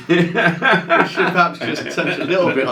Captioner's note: both laugh